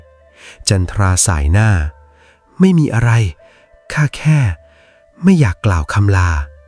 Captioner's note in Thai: เสียงถอนหายใจ